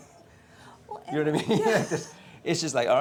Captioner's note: laughs